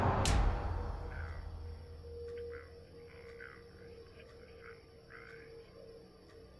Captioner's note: Brandy thudding; sudden screeching music; radio broadcasting quietly